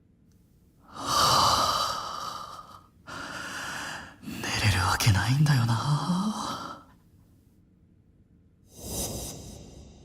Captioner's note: sigh*... There’s no way I can fall asleep…!